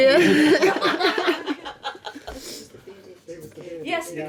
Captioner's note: laughing